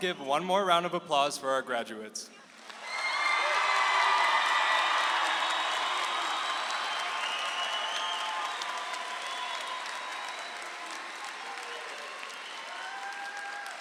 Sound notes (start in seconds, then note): 2.7 audience applauding